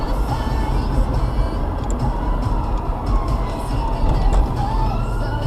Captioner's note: sirens